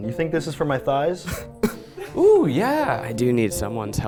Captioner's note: chuckling